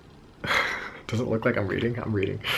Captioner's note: chuckling